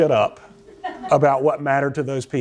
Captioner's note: laughter